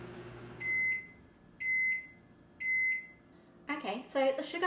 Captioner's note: microwave beeping